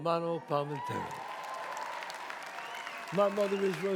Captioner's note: audience cheers